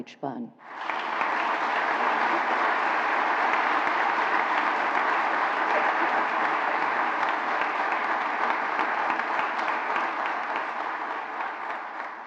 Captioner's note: applause